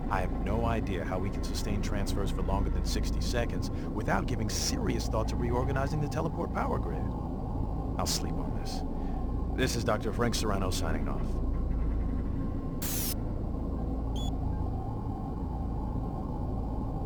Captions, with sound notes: I have no idea how we can sustain transfers for longer than 60 seconds without giving serious thoughts of reorganizing the teleport power grid. I'll sleep on this. This is Dr. Frank Serrano, signing off. (beeping)